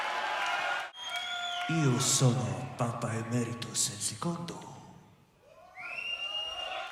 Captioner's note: speaking Italian